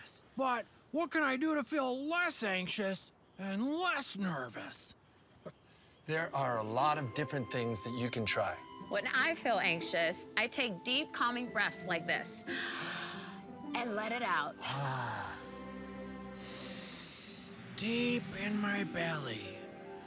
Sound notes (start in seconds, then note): 12.5 inhaling; 14.8 exhaling; 16.3 inhaling